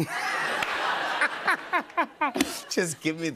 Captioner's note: laughter